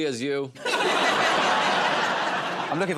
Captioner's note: laughter